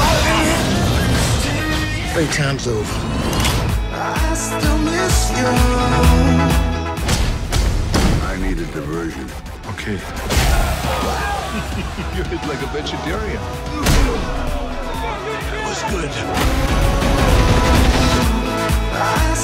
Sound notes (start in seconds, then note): 0.1 rock music; 7.6 thudding; 10.3 cheering; 11.2 chuckles; 14.1 thuds; 16.3 guns firing